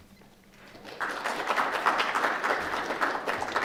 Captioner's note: applause